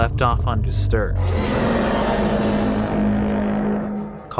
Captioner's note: growling